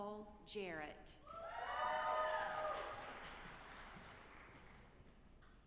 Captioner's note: audience applauding